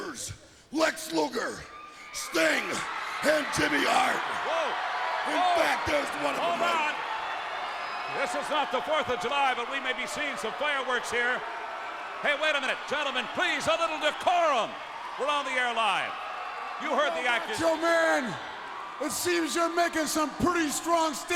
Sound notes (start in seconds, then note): 5.3 crowd cheering